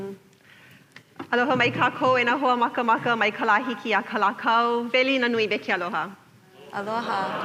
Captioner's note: welcomes in Hawaiian